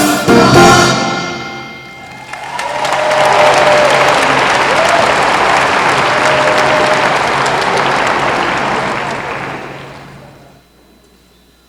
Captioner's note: applause